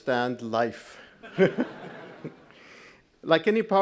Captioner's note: all laughing